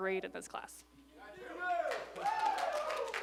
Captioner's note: applause